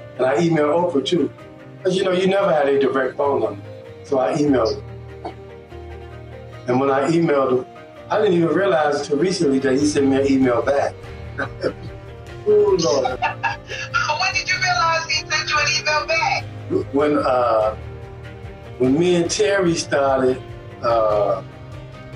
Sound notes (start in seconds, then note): 12.6 laughs; 12.7 laughs in background